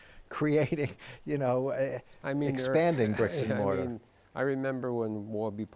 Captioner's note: chuckles